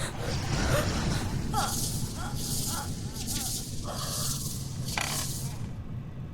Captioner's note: creature snarling; Wendy choking